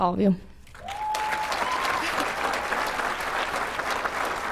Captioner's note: cheering and applause